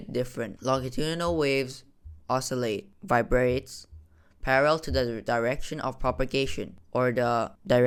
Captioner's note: vibrates